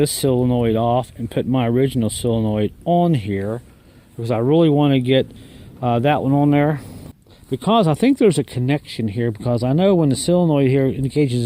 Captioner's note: uh